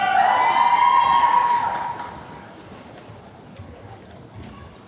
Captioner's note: attendees cheering